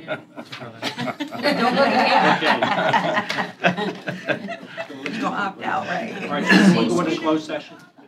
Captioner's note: laughter